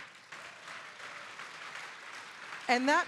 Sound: audience applauding

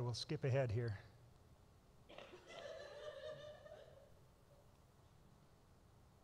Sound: laughter

